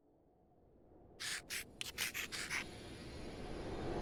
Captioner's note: chalk scratching board